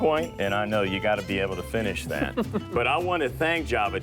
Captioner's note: giggles